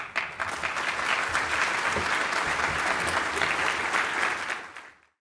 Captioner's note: audience applauding